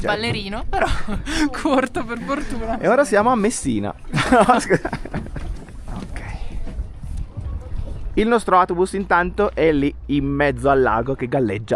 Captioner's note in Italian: risate